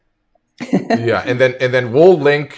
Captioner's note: laughs